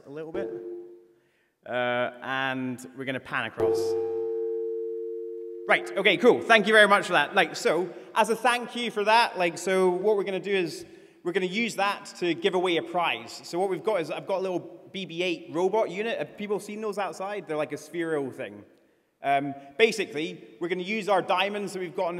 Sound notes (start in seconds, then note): 0.3 tone played; 3.6 longer tone played